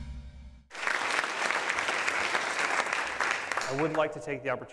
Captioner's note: applauding